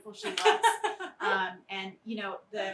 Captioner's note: laughs